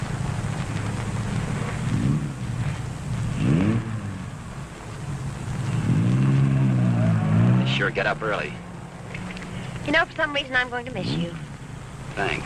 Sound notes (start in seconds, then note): 2.1 engine rumbling